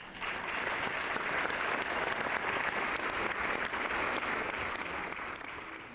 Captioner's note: applause